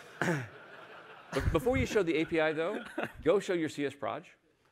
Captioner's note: laughter